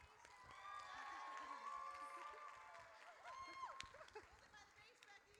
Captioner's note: audience cheers